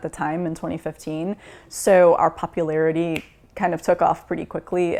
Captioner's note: snaps